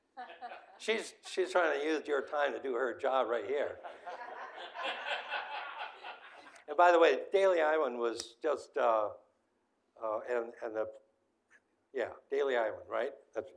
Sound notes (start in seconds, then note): 3.8 audience laughing